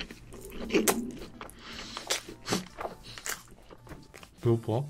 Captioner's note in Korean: 옆에서 꼬르륵소리 들림